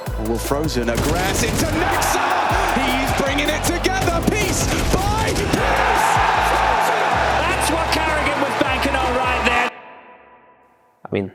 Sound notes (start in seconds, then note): 6.2 crowd cheers